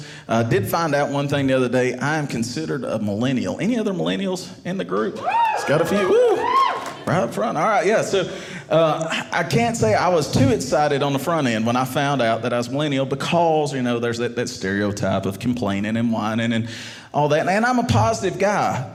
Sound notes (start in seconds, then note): 5.1 audience cheering